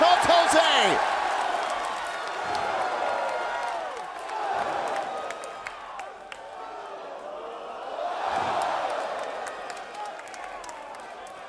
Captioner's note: crowd cheering